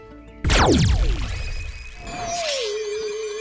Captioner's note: zap